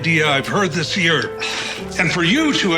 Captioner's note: sighs